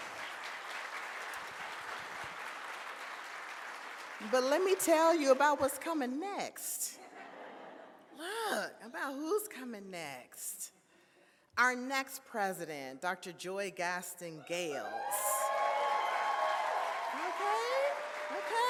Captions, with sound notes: But let me tell you about what's coming next. About who's coming next. Our next president, Dr. Joy Gaston Gayles. (audience cheers) Okay, okay.